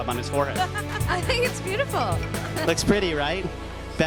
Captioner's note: laughing